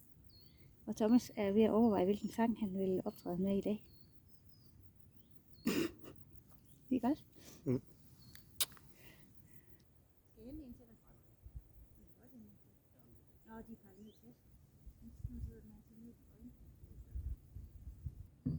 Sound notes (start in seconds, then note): 5.7 laughs